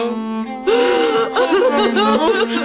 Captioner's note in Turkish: Ağlama sesi